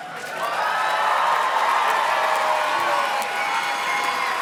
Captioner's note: audience cheers and claps